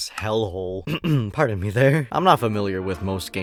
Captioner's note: ahem